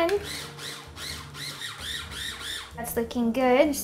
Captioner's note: blender whirring